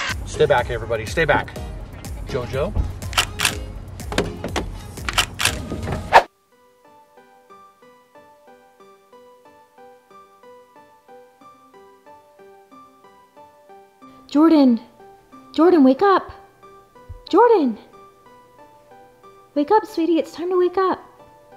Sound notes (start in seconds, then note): 3.1 camera shutters; 6.9 light instrumental music; 21.3 light instrumental music